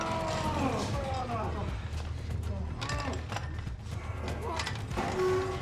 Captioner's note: heavy breathing